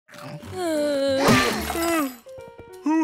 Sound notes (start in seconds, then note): 0.5 groaning; 1.5 yawning